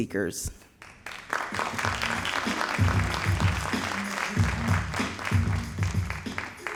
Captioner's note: all applauding